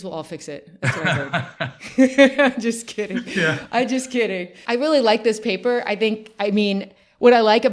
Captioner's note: both laugh